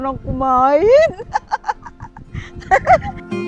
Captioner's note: laughs